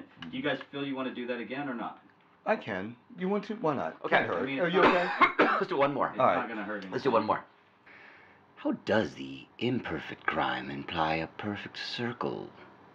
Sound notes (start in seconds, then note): 4.7 coughing